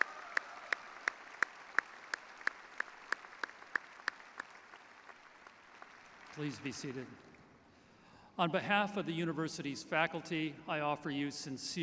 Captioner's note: applause